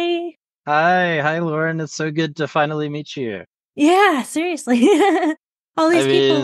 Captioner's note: laughs